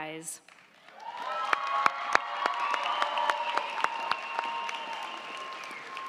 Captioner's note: crowd clapping; crowd cheering